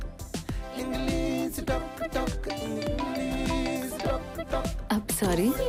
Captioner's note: phone ringing